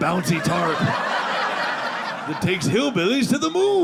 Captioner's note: audience laughing